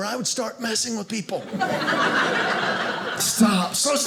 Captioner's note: audience laughing